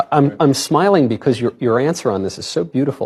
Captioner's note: none